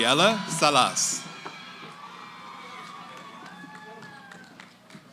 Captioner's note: cheering